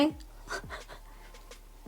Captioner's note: laughs